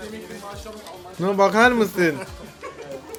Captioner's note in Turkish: Arkada gülüşme sesleri